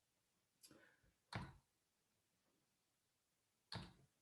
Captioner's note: click